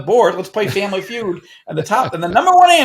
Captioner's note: laughing